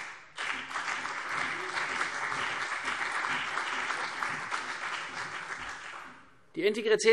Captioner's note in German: Beifall CDU und BÜNDNIS 90/DIE GRÜNEN